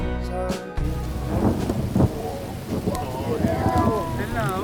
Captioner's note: thunder